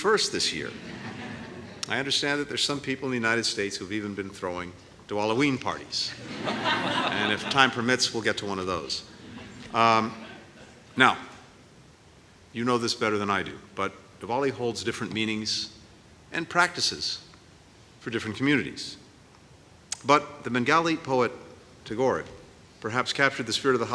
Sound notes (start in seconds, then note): 0.7 laughter; 6.1 laughter